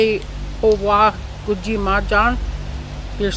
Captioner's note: speaking in a foreign language